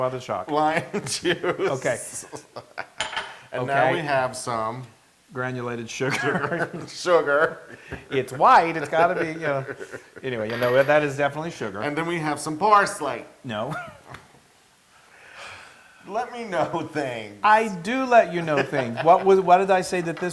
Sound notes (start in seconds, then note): 0.5 laugh; 6.0 laugh; 18.2 laugh